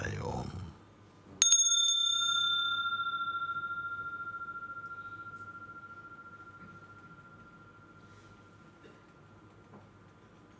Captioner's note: Läuten der Glocke